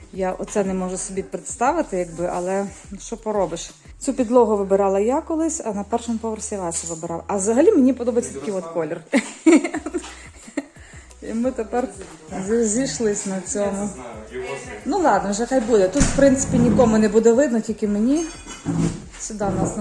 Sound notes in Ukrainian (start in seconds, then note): 9.1 сміх